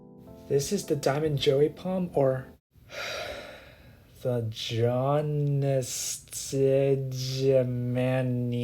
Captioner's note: sighs